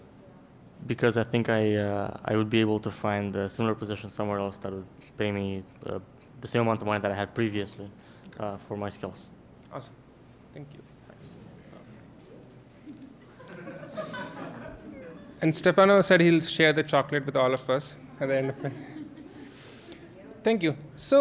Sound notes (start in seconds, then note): 12.4 candy Wrapper Rattling; 13.3 laughter